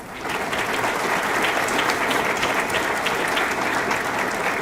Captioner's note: audience clapping